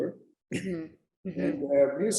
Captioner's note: chuckles